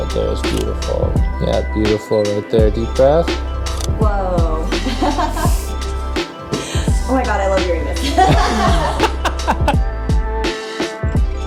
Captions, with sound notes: Right there is beautiful. Yeah, beautiful right there. Deep breath. - Whoa. (laughs) Oh my God, I love hearing this. (both laughing)